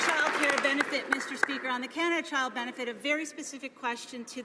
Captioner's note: some Applause